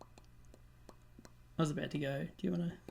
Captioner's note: mouth popping noises